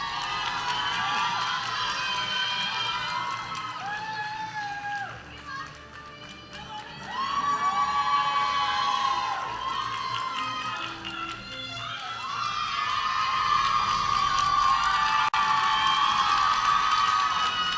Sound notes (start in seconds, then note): 5.6 applause